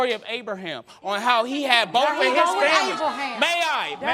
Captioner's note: interrupting